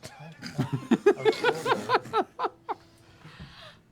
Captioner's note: laughter